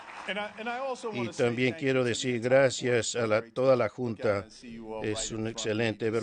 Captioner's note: applause